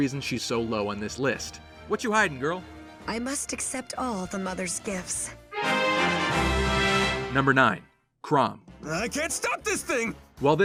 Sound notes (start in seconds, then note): 5.5 Fire Emblem level up sound